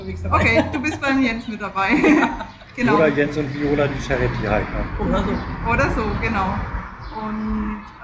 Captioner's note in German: gelächter